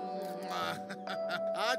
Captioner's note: Laughs